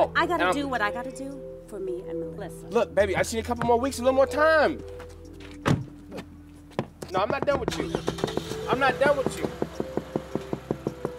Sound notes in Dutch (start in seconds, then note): 5.6 autodeur sluit; 7.6 auto motor start; 9.0 klopt op het raam